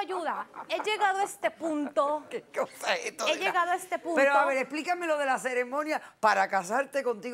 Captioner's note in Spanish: Risas